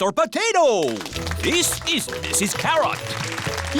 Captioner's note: applause